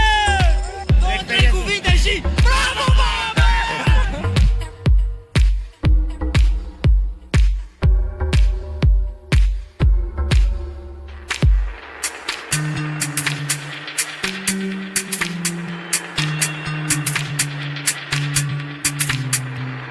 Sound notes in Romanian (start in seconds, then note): 9.3 Aplauze